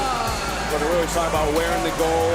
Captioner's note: cheers